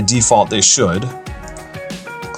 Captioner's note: mouse click